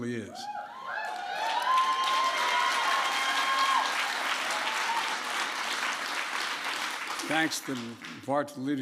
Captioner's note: applause